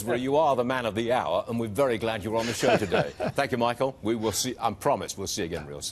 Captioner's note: laughter